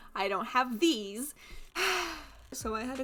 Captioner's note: frustrated sigh